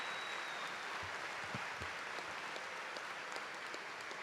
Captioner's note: cheers and applause